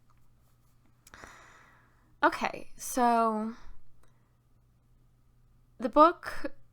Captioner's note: breath in